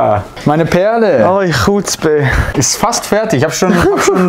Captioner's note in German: Verwirrte Geräusche